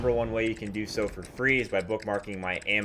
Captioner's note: keyboard clicks